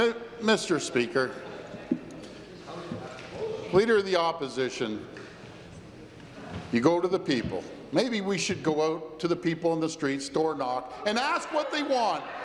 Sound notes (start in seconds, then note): 0.7 chuckles